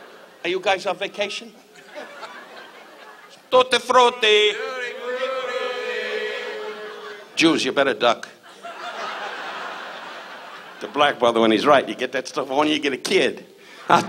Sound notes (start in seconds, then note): 1.7 audience laughs